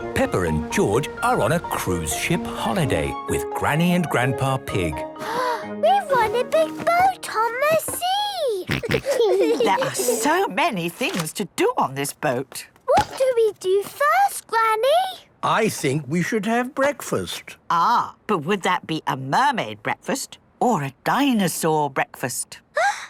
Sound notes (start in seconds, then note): 5.2 gasps; 8.6 snorts, giggles